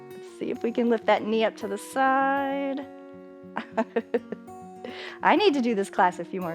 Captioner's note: laughing